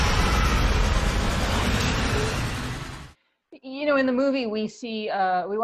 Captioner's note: screams